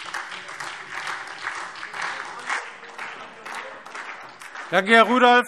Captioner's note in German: Beifall SPD